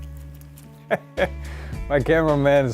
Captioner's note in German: laughs